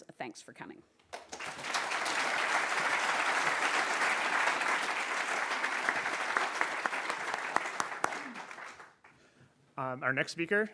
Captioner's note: applause